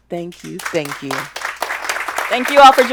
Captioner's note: clapping